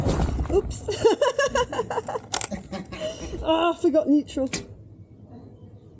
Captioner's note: laughing